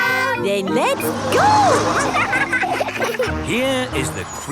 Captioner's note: laughing